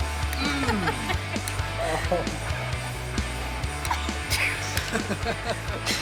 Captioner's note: lively music; friends laughing